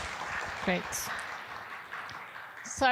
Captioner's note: applause